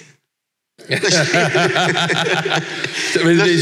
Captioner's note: laughs